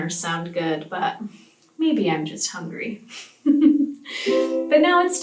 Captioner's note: laughs